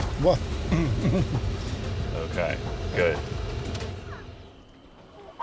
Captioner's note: chuckles